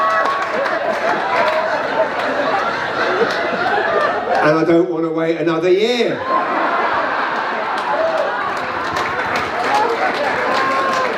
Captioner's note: laughter and applause; more laughter and applause